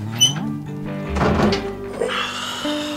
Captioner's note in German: Er seufzt